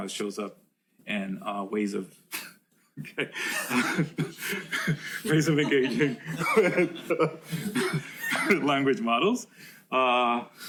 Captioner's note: laughs